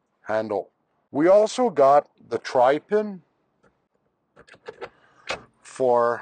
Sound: Tri-Pin clunks

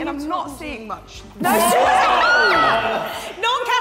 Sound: all laughing

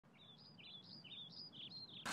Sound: birds chirping

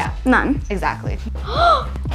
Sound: gasps

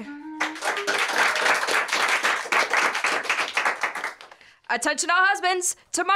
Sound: applause

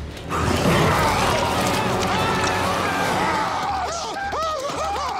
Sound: zombies snarling; man screaming; men screaming continuously

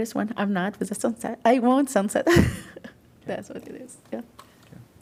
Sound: laughter

